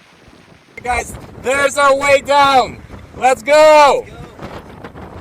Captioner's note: shouting